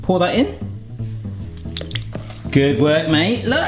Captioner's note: egg white pouring